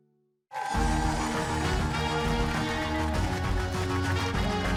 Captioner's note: cheers and applause